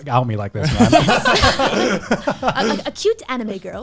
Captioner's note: laughs